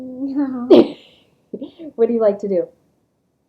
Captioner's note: laughter